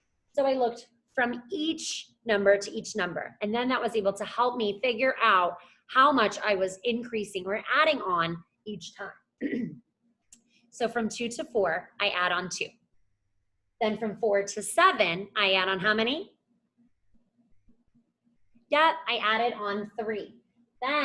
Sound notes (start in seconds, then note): 9.4 clears throat